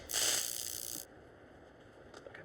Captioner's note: cattle prod sizzles